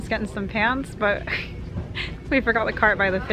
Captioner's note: laughing